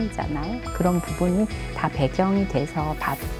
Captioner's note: sparkling sound effect